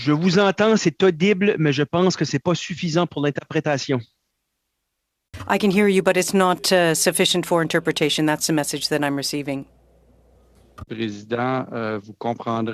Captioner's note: speaking French